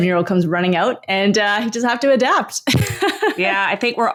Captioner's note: laughs